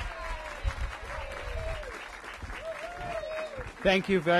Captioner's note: applause